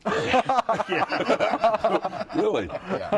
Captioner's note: laughter